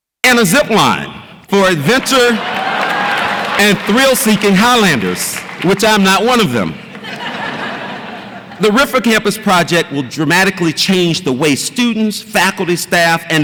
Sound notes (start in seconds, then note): 1.9 audience applauds and cheers; 6.9 audience laughs